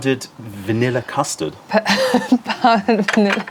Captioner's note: laughter